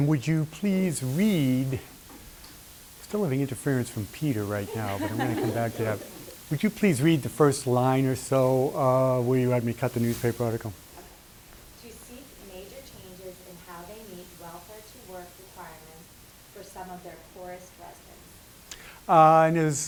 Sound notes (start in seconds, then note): 6.4 laughter